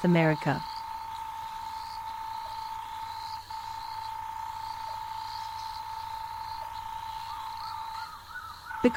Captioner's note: night sounds